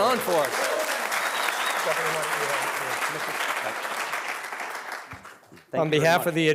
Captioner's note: audience applauding and cheering